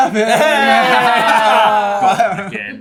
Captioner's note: laughter